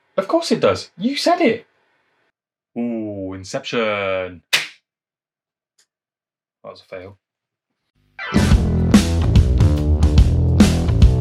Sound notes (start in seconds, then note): 4.5 popper fires